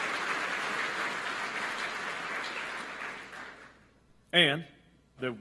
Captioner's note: applause